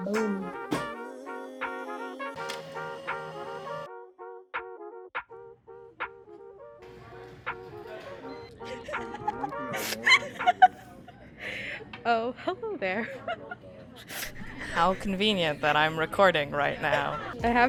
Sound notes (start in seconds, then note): 0.0 upbeat music; 8.6 laughing; 14.1 laughing